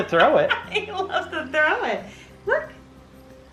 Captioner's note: laughs